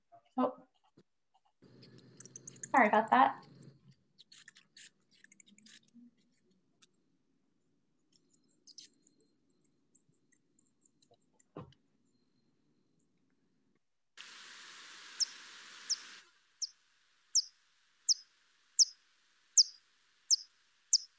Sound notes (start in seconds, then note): 2.1 bat chatter continues; 6.6 bat calls - series of clicks and squeaks